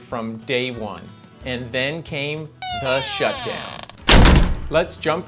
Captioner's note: hinge creaks, door slamming